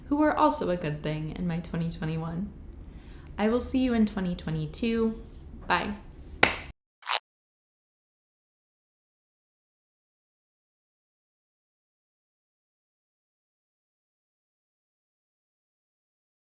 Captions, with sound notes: who are also a good thing in my 2021. I will see you in 2022, bye. (claps hands) (tape tears)